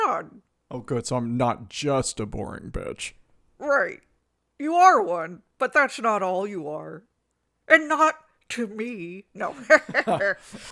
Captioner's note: Leia cackles